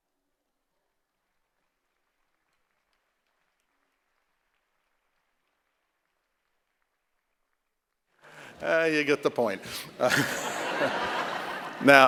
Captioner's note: applause